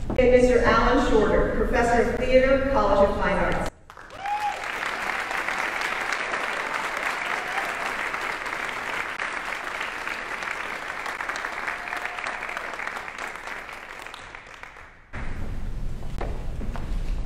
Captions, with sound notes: And Mr. Allen Shorter, Professor Theater, College of Fine Arts. (audience applauding)